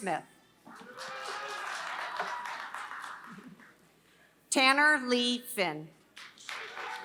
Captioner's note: applause; applause